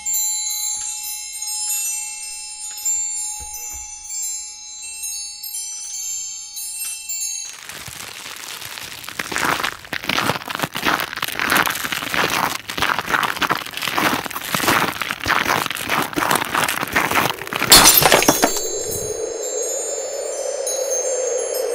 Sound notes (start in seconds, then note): 9.5 audio: Frost & Ice on Glass; 17.6 audio: Breaking Glass